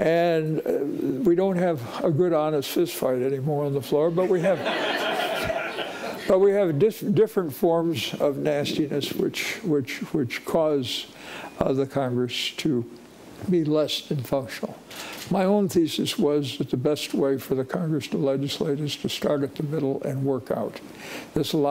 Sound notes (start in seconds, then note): 4.2 audience laughing